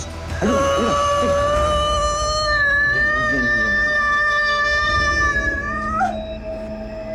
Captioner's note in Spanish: Grito